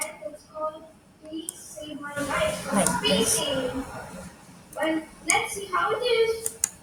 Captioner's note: keyboard clicking